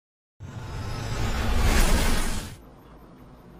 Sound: space ship noise

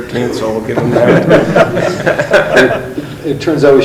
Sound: laughing

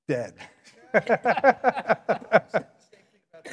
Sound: panelists laughing

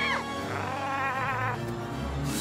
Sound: everyone screaming; angry chattering

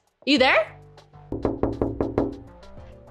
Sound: knocking

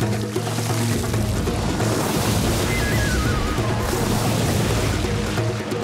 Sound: splashing

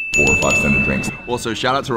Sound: deep Voiceover

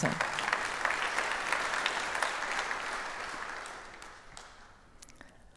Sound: audience applauds

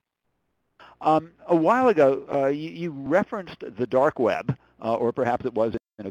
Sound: voiceover

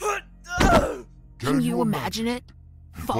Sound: falling/pained yelp; punching effort

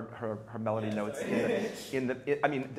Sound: chuckles

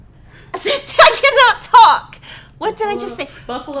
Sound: laughing

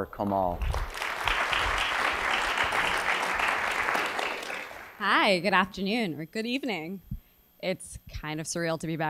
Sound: applause

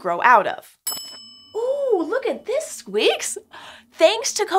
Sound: ding-noise

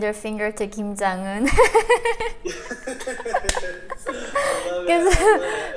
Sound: laughing

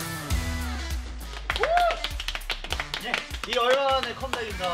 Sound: applause

